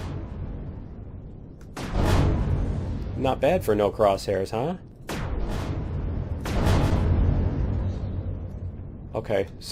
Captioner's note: explosion